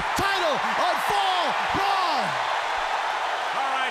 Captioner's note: crowd cheering